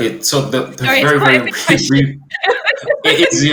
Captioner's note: laughs